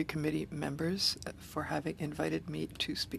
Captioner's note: speaking French